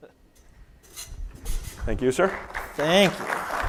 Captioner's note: applause